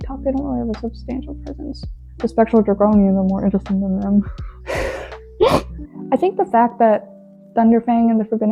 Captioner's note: laughs